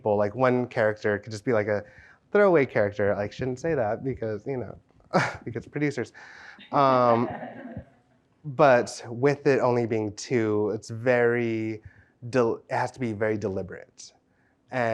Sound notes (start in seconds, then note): 6.8 audience chuckles